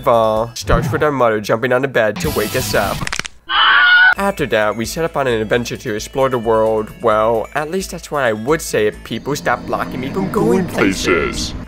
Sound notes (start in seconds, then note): 3.0 crack